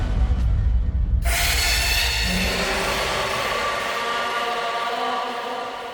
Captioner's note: monster Screams